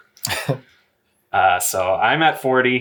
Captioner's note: laughs